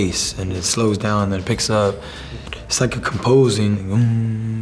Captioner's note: hums